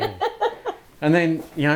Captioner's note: laughing